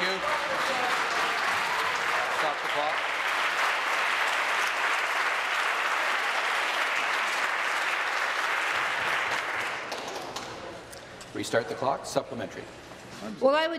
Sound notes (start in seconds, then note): 5.8 voice trailing; 7.8 applause